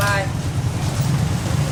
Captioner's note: speaking Vietnamese